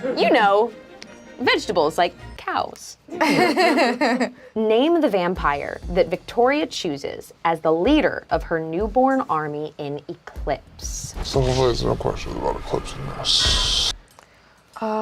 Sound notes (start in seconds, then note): 3.1 laughs